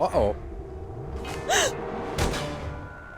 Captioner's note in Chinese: 喘气